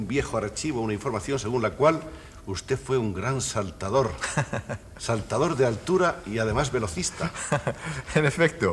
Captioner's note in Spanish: risas